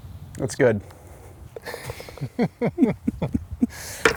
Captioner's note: laughs